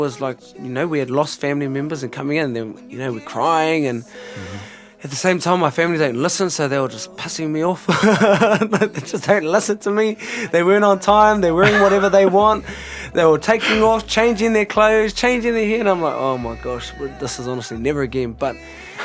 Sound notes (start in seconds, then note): 7.8 laughts